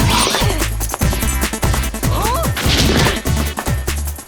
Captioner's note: grunting